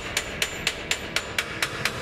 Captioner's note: knocking